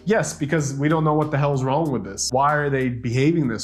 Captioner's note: none